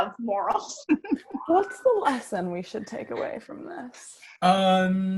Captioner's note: HARPER laughs